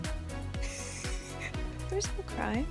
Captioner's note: laughs